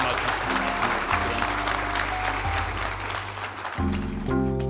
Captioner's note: audience applauding